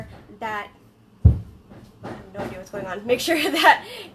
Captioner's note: distant banging